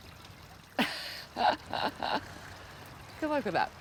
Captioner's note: laughs